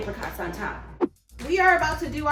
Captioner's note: whoosh